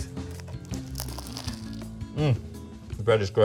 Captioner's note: sandwich crunching